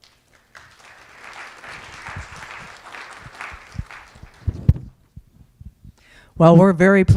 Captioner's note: applause